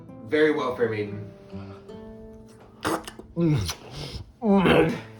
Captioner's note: salacious kissing sounds